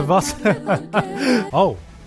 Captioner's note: gasp